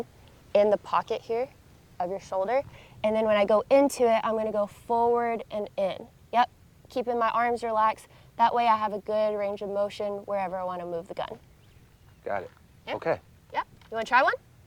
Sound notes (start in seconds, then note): none